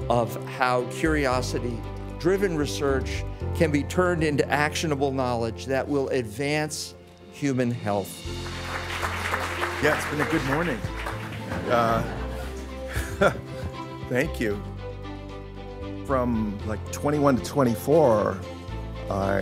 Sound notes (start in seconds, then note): 8.2 audience applauding; 11.4 laughs